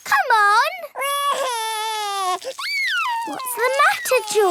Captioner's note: crying